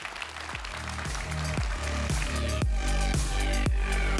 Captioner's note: applause